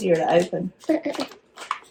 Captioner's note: laughs